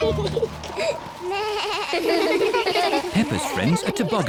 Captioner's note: all laugh; both giggle; suzy bleats